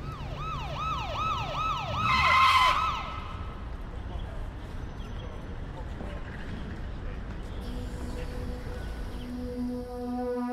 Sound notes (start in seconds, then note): 0.0 police Siren; 1.8 wheel screech